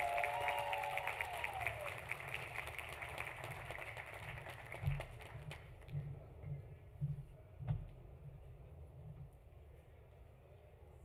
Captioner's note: applause